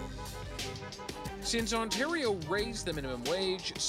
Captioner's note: car horns beeping